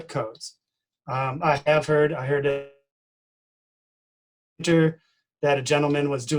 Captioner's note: distorted speaking